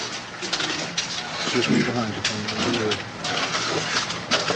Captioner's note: cameras clicking